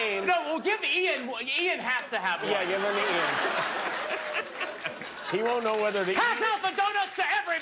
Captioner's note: laughter